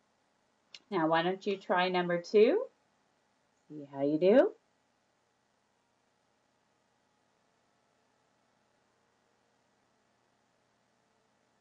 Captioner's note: silence